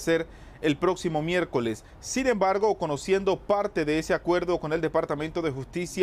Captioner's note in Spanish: HABLA EN INGLéS